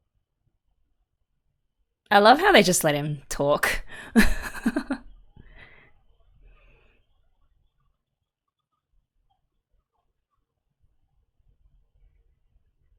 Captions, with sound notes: I love how they just let him talk. [laughs]